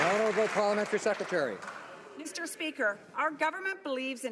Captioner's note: some Applause